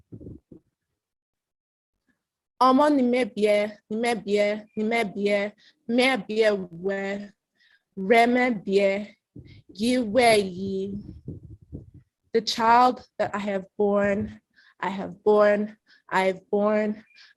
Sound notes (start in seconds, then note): 2.5 Speaking Esan